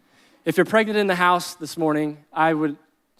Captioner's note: none